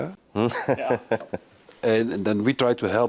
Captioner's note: laughing